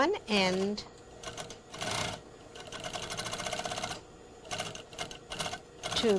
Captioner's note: sewing machine